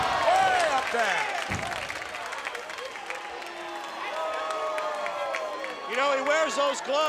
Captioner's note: applause